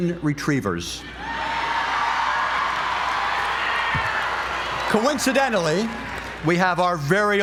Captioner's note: applause